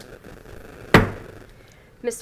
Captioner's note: gavel hitting dais